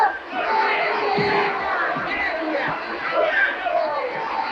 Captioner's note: crowds cheering